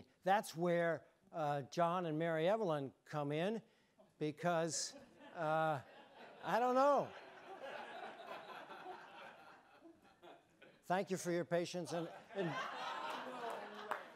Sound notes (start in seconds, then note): 6.9 audience laughing; 11.9 audience laughing